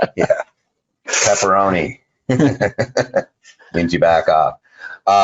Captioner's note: laughs